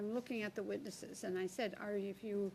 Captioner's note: speaking French